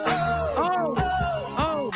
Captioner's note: laughing; upbeat music